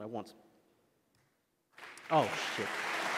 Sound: applause

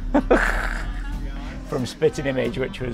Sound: chuckles

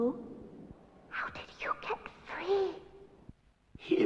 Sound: whispering

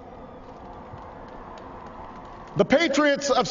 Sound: applause

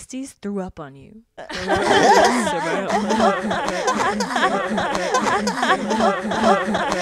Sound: everyone laughs

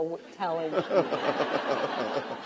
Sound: laughter

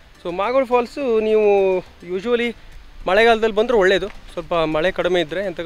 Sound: rain

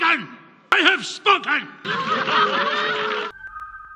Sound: applause

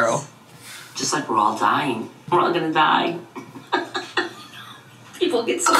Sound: laughing

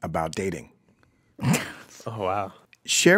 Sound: laughs

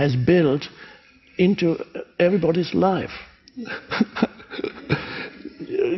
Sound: laughs

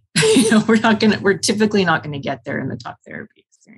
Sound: chuckles

